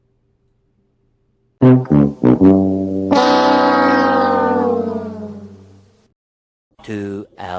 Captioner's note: game show losing sound effect